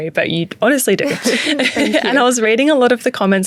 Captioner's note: both laughing